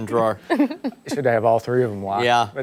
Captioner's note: laughter